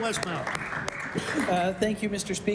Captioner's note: applause